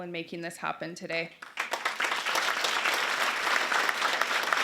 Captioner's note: applause